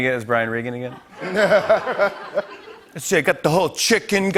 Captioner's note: laughter